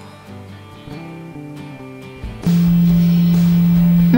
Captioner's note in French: Bruits de vibration